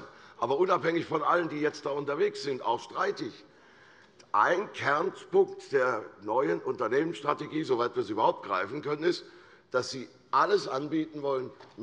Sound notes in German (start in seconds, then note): none